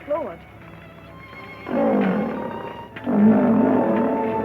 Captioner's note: lion growling